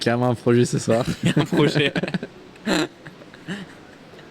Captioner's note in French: rires